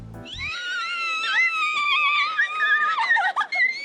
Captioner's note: both squealing